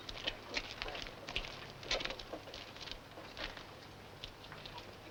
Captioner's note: none